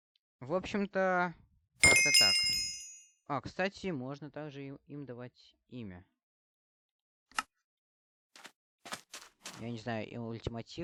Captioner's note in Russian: колокольчик